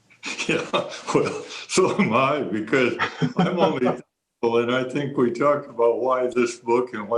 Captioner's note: laughs